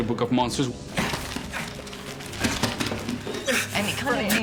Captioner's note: grunting